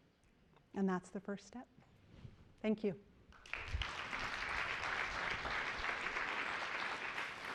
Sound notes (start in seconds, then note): 3.3 applause